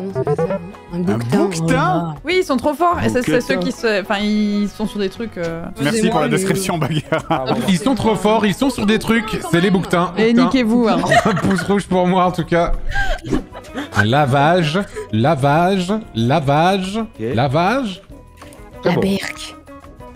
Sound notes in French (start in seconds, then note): 0.1 jingle de fin de round; 6.3 Rire